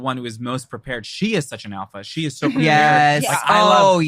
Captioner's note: laughs